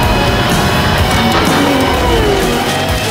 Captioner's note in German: klicken lenkradknöpfe